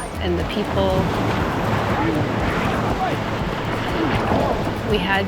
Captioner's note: water whooshing